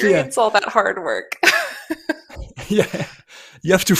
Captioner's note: laughs